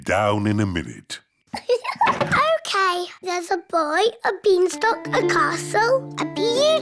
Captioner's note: laughs